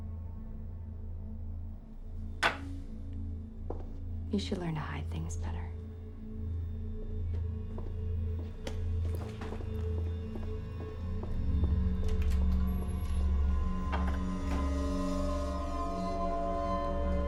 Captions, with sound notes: (gentle tense music) You should learn to hide things better. (shoes clacking) (door latch clicks) (eerie music)